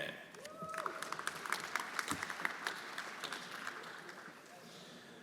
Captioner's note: everyone applauding